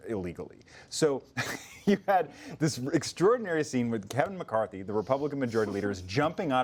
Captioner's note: laughs